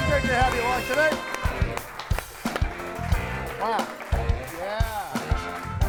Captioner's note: audience applauding